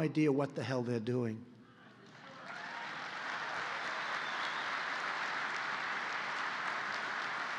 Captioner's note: applause